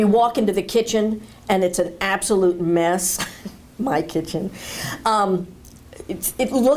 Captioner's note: chuckle